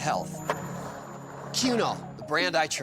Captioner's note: skateboard wheels roaring